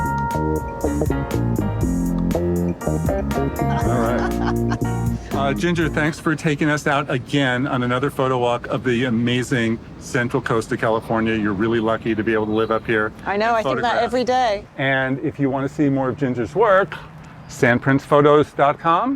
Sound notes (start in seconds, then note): 0.0 ambient music; 3.6 laughing